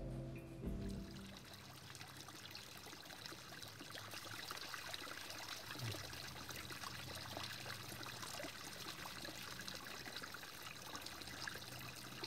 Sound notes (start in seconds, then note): none